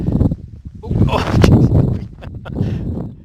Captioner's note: laughs